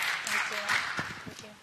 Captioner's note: applause